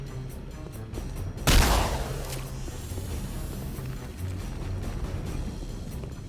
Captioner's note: gun firing; dramatic music